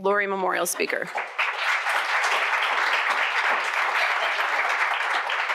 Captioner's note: audience applauds